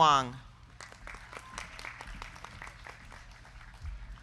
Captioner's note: crowd clapping